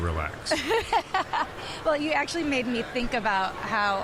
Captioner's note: laughing